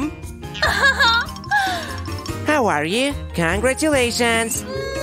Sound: making happy sounds

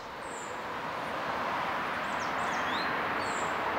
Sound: traffic noise, birdsong

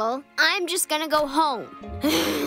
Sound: sighs

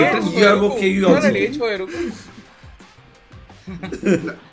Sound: laughs

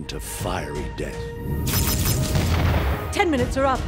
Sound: blaster fire, explosions

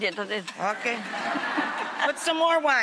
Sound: audience laughs

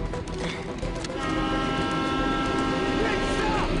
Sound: train horn blares

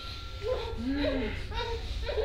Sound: moaning

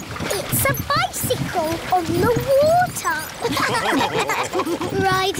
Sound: all laughing

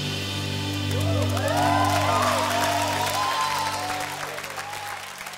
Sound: audience clapping

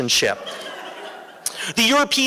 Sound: laughter

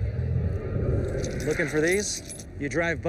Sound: sound of keys

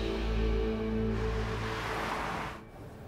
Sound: car halts

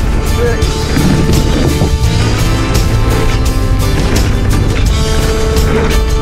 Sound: laughing; tires rumbling on the ground

